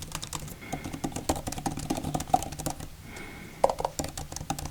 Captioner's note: Apple Magic Keyboard clacking